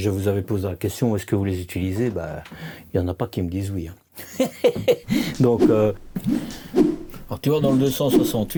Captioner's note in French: rires